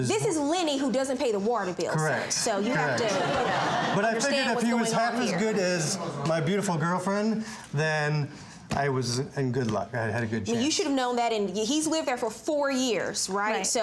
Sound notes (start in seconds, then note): 2.2 audience laughing